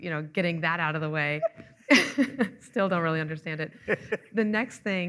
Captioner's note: chuckling